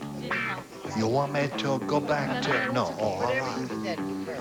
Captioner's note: asian accent